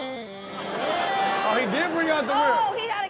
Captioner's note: audience laughs